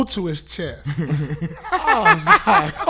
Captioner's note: laughing